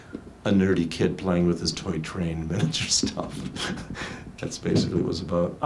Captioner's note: laughs